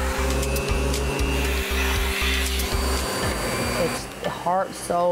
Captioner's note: high-powered sucking of air; inquisitive instrumental music; motor humming